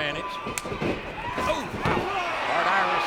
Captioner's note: footsteps tapping; audience cheering